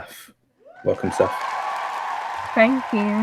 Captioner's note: cheers